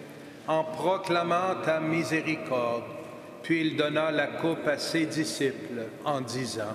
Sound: speaking French

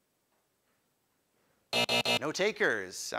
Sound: time buzzer

